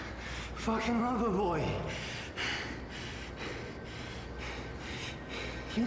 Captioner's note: breathes in and out loudly